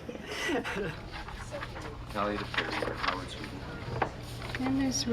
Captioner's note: chattering